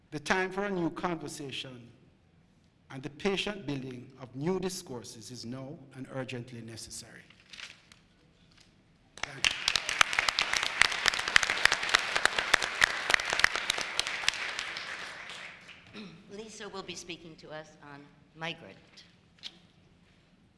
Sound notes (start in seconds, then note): 9.1 applause